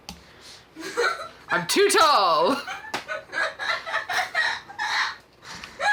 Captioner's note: child laughing